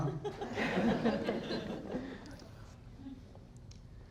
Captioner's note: audience laughs